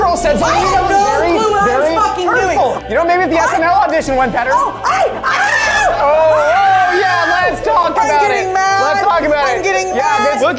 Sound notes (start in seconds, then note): 3.4 jabbers; 4.6 shouting; 6.5 overlapping chatter